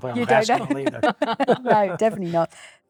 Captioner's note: laughing